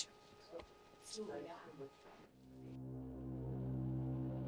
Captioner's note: participants faintly murmuring; suspenseful music